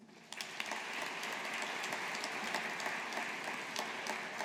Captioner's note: audience applauding